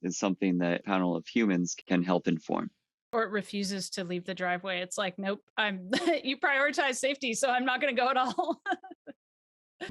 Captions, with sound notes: is something that panel of humans can help inform. - Or it refuses to leave the driveway. It's like, nope, (chuckles) you prioritized safety, so I'm not gonna go at all. (laughs)